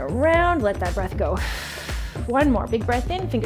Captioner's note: exhales sharply